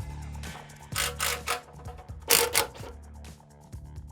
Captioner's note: whirring